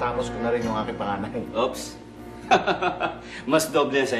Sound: laughs

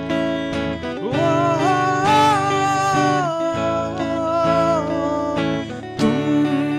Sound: humming

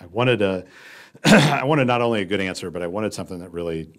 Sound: cough

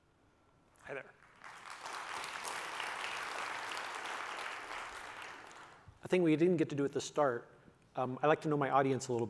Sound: applause

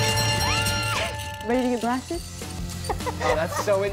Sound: laughing

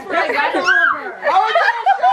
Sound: girl screams

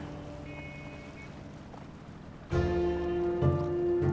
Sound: horns honk

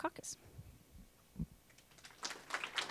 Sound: applause

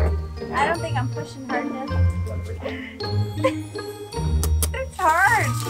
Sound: laughs

